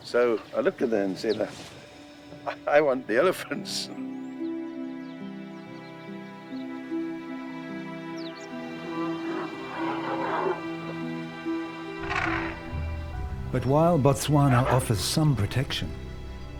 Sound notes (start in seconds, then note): 4.2 pleasant music playing; 8.6 elephants grunting